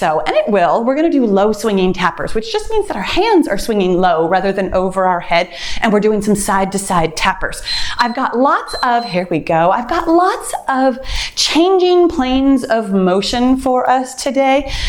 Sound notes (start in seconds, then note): 7.6 timer beeps